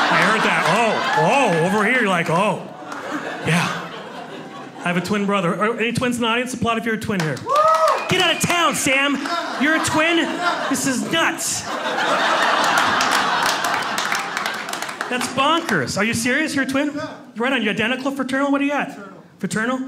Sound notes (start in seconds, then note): 7.1 loud clapping and shouting